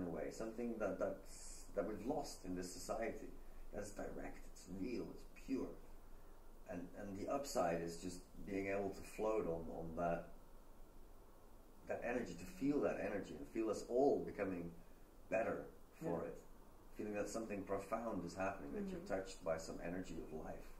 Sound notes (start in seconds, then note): none